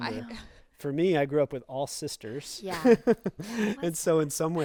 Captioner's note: laughs